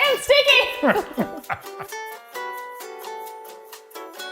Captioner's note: laughs; slow upbeat music